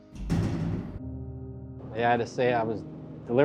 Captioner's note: door clanks